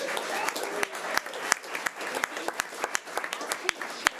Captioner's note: audience applause